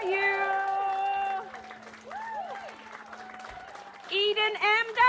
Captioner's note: cheering